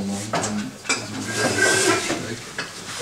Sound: he speaks quietly

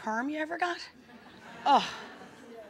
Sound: audience laughing

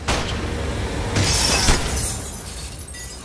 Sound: gun shot; glass breaking

